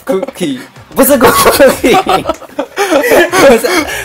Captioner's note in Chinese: 笑翻